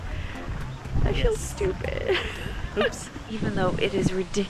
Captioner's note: laughs